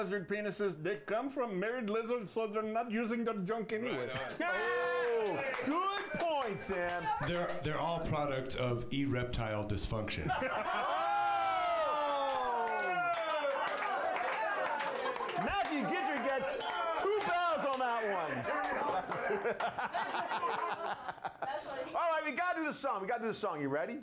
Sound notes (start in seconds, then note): 4.9 applause; 5.8 bell rings; 13.7 bell rings; 20.2 applause